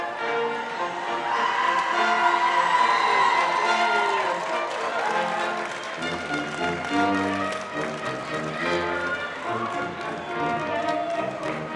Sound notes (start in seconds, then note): 3.5 audience cheers; 3.5 recessional music continues